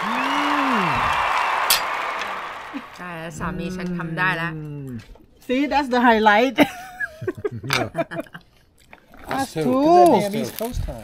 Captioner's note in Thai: เสียงหัวเราะ